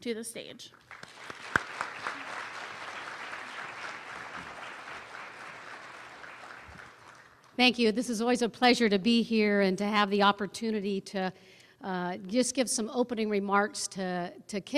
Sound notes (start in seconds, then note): 0.7 applause